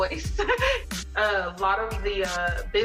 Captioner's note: laughing